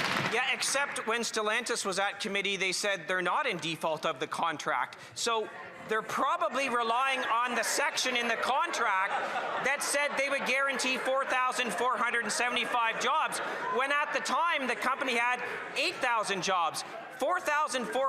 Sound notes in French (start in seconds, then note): 4.8 voix de l'interprète